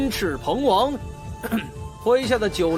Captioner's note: cough